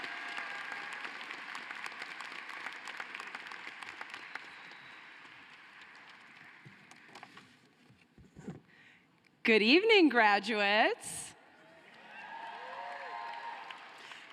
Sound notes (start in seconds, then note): 2.3 cheering and applause